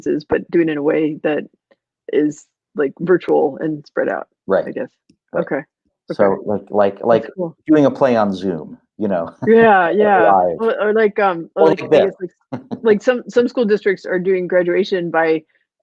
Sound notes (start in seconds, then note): 9.3 laughing